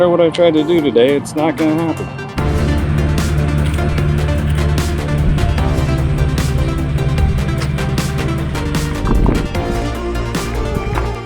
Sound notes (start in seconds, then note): 2.0 traffic sounds; 8.9 music slows